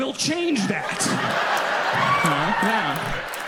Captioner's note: audience applauds and cheers